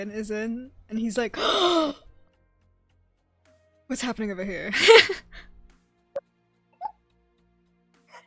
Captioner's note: dramatic gasp